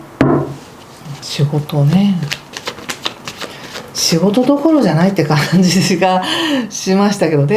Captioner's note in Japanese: 笑い